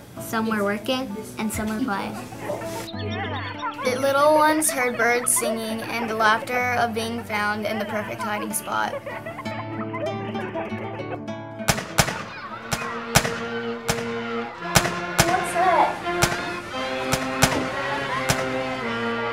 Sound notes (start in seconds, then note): 8.9 laughter; 11.6 rifle shots; 16.2 rifle shots